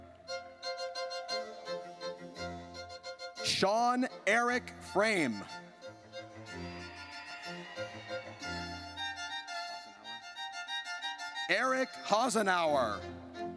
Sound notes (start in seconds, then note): 0.1 triumphant music; 6.5 audience cheers